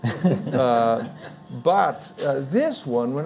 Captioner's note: and Audience laughing